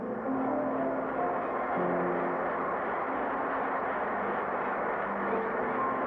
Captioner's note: audience cheers and applauds